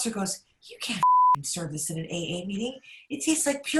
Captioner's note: beep